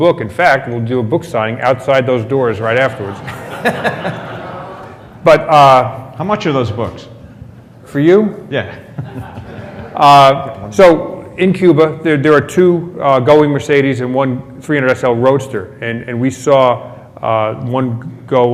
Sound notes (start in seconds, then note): 3.0 laughter